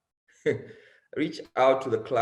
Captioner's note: chuckles